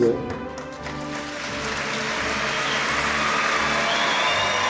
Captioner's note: audience clapping and cheering